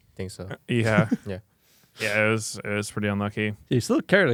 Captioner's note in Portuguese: risos